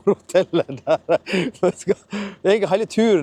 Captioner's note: snickers